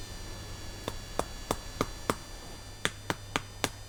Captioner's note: hover fly buzzing around the mic; tap tap tap tap tap; hover fly buzzing around the mic; hoverfly buzzing around the mic; tap tap tap tap tap tap tap tap